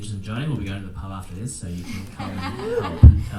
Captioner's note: attendees laughing